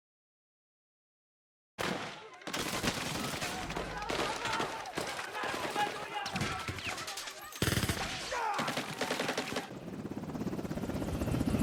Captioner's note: gunshots; helicopter